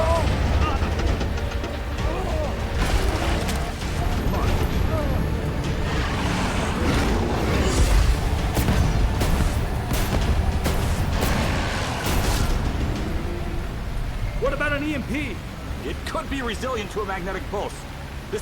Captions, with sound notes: (man groaning) (dramatic music) (creature roaring) (lasers blasting) (dramatic music) - What about an EMP? - It could be resilient to a magnetic pulse.